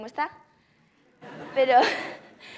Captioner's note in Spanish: Risas